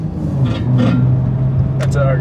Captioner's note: clanking